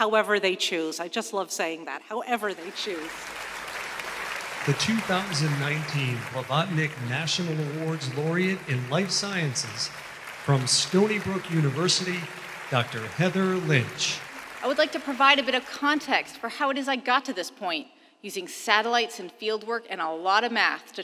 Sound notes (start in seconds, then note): 3.2 applauding